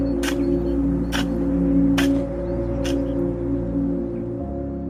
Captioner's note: shovel digging